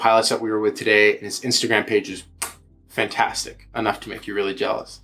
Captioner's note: kissing